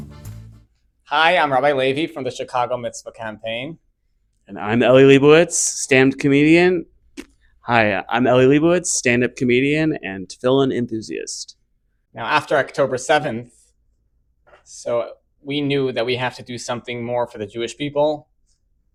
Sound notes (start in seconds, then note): 7.1 spits